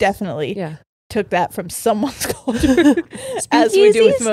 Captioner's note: laughs